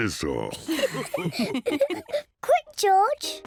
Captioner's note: all laugh